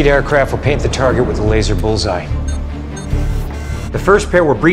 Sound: beeping

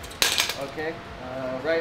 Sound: bar creaks

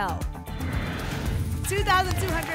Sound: whoosh

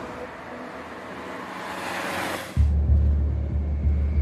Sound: car engine roaring

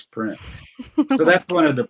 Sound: chuckle

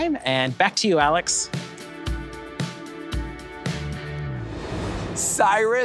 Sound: transition whooshes

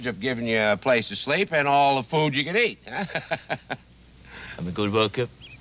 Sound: chuckles

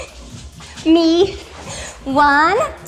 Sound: laughs

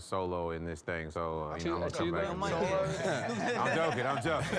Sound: laughter

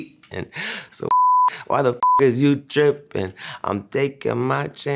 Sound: beep

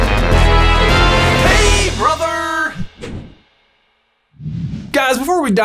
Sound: voiceover

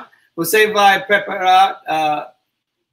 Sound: speaks portuguese

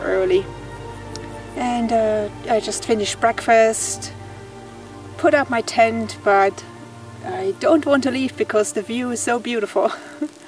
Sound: laughs

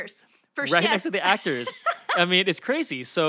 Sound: Felicia laughs

